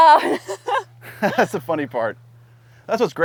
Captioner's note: laughs